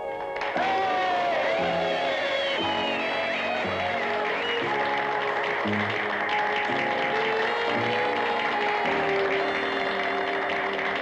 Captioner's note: light orchestral music plays; applause